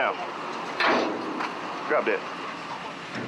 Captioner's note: loud thud